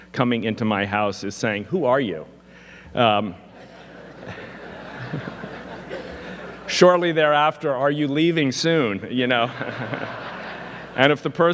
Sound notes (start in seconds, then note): 3.5 audience laughing; 5.8 laughs; 10.7 laughs